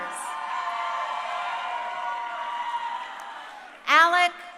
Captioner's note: crowd cheering